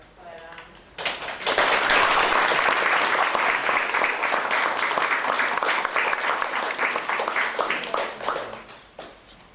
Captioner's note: audience applauding